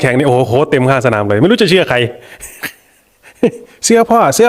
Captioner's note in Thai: เสียงหัวเราะ